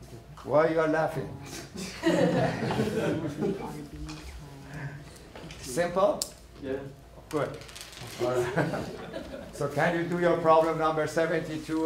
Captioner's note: laughing